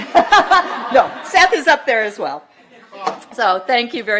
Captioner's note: laughter